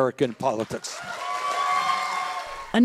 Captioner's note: cheering and applause